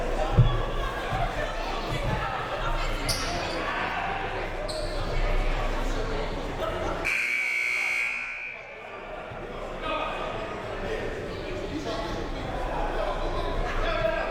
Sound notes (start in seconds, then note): 7.0 buzzer